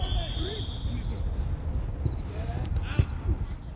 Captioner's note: whistle